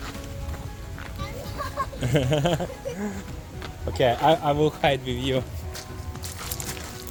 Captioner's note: laughing